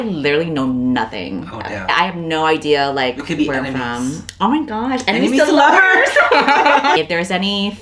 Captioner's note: laughs